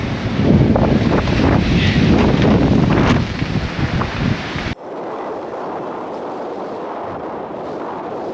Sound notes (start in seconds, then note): 4.3 wind howling